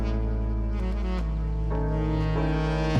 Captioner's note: engine revving